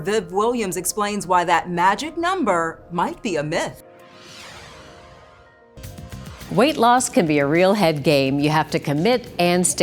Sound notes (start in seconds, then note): 3.1 contemplative music; 4.0 graphics whoosh